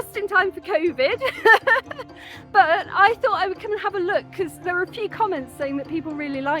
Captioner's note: laughing